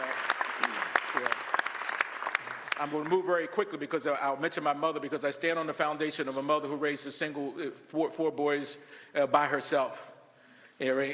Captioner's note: applause